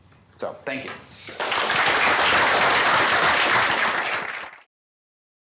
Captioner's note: applause